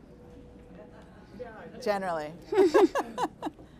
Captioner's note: laughing; audience chuckling